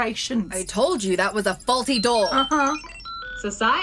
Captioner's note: computer beeps